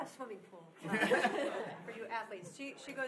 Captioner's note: laughing